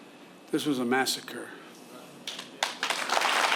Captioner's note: applause